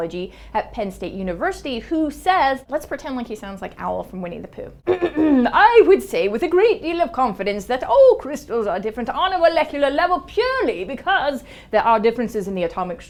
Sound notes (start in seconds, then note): 4.9 clears throat